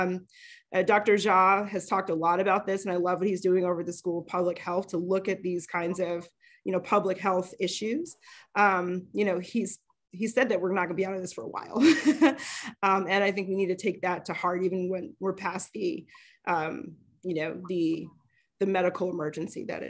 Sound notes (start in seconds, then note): 12.2 chuckles